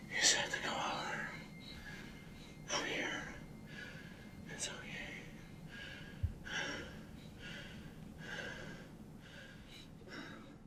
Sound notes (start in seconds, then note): 5.5 breathing quickly